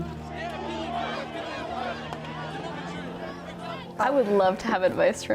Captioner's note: protestors chanting